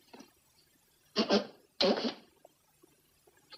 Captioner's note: blowing nose